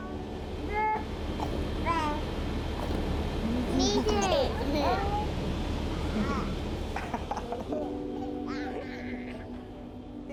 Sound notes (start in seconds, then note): 0.7 children babbling